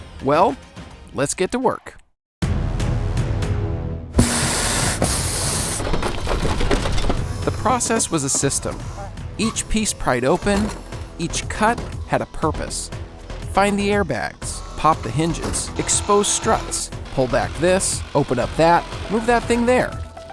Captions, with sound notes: -Well, let's get to work. [air hissing from tires] [glass shattering] The process was a system. Each piece pried open. Each cut had a purpose. Find the airbags. Pop the hinges. Expose struts. Pull back this. Open up that. Move that thing there.